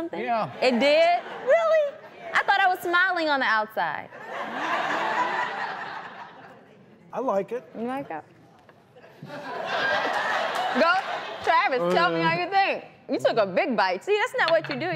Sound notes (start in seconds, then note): 4.1 laughter; 9.0 laughter